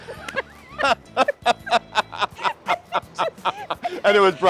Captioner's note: both laugh